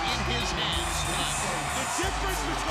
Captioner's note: crowd cheering